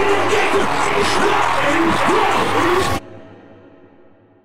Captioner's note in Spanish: multitud aplaudiendo